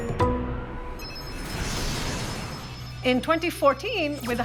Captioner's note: beeping